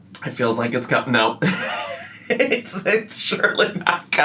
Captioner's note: laughs